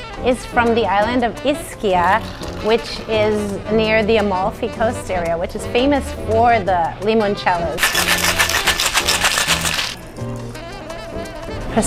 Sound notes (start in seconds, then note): 7.8 ice clunking; 10.0 jazz music